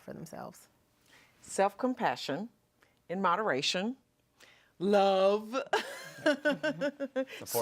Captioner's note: laughing